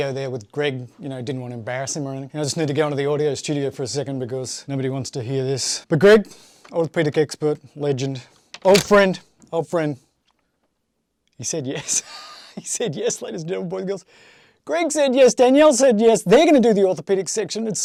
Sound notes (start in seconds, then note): 11.8 chuckles